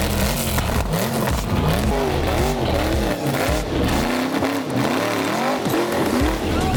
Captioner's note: engine revving